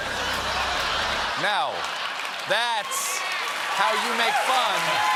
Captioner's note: applause; laughter